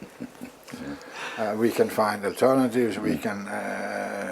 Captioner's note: laugh